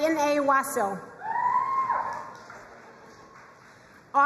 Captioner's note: crowd cheering and applauding